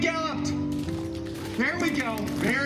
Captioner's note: galloping sounds